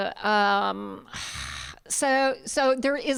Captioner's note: none